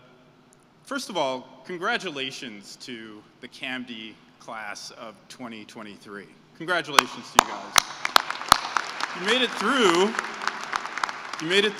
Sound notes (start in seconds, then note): 7.3 applause